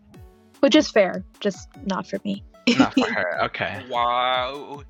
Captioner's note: laughs